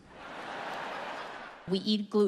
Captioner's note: audience laughs